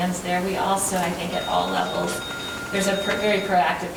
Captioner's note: phone ringing